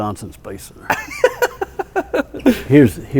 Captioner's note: laughs